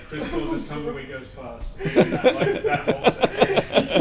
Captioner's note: laughs